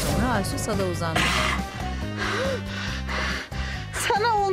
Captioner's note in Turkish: Nefes sesi